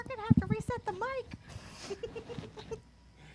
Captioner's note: chuckles